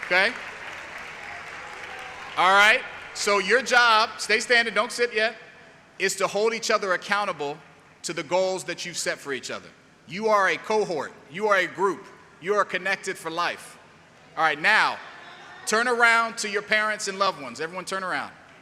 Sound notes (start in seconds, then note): 4.2 applause; 4.2 cheering